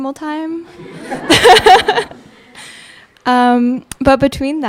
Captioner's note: audience laughing; laughing